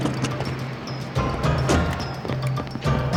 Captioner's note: door closes